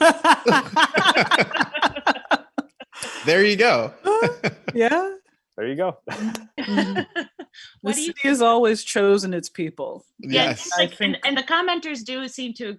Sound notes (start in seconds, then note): 0.0 all laughing; 6.0 laughing; 6.7 chuckles